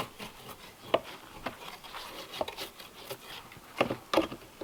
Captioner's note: drawknife scraping